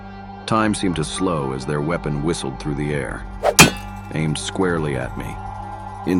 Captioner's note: swoosh & clank